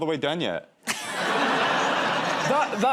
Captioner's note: laughter